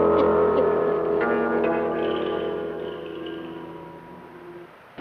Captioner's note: fire roars and crackles